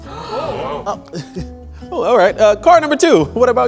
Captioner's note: laughs